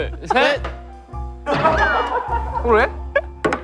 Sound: staff members start laughing

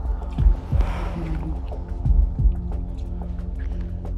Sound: moaning, panting

